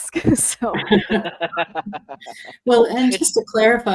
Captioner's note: laughing